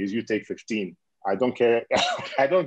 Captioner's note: laughing